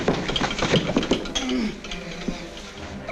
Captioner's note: wilson groaning